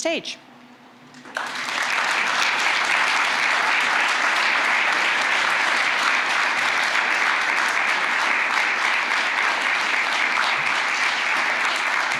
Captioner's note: applause